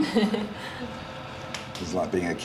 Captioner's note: chuckles